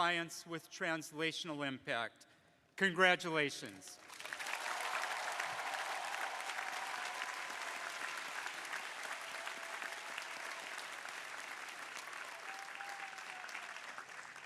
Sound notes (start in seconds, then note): 4.6 crowd applauding